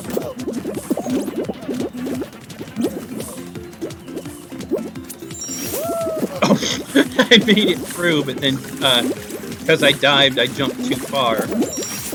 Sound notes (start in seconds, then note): 6.8 scoffs